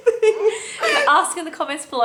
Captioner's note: laughs